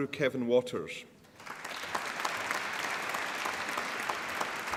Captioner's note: applause